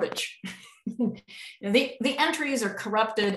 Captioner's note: chuckles